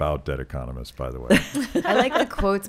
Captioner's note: laughing